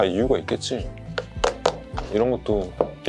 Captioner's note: knock knock knock